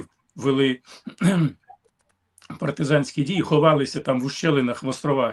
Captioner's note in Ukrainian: прочищення горла